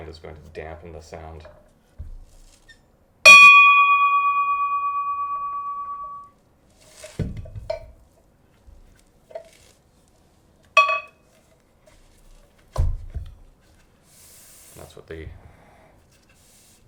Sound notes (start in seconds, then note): 3.3 bell chimes gently ringing